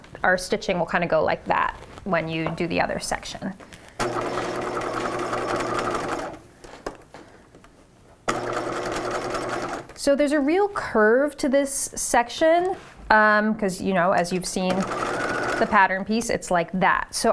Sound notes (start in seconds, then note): 4.0 machine whirring